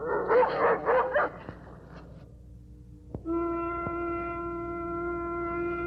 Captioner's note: foghorn blows